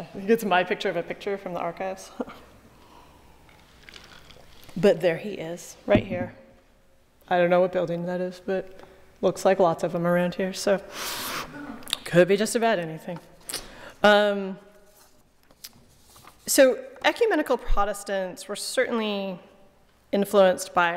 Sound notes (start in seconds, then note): 3.2 ice clacking